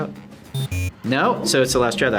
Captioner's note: buzzer blares